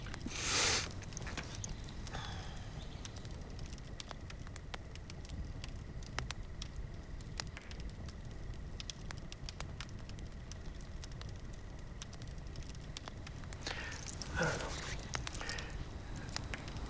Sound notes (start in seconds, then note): 0.3 inhales sharply; 3.2 fire crackling